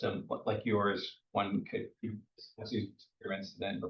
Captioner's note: speaks faintly